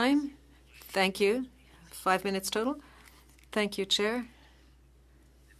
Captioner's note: speaking French